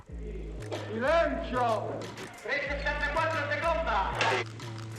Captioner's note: speaking Italian